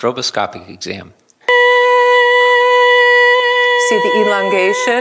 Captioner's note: high pitched sound